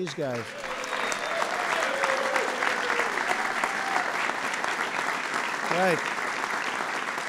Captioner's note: applause